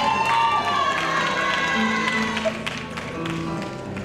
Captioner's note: cheering